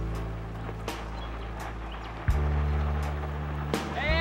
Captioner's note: sound of a jet-ski